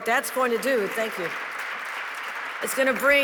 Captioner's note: audience clapping